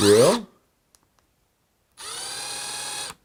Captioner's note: whirs